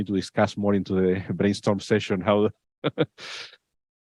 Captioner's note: laughs